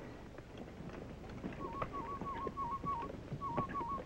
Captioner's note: bird whistle